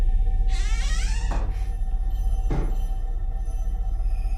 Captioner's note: door creaking